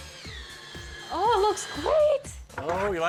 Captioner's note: drill whirring